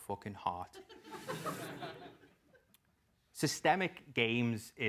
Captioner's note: laugh